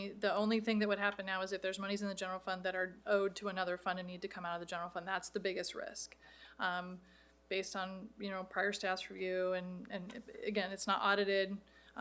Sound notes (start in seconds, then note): none